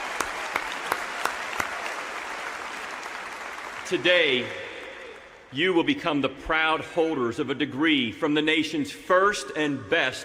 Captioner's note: applause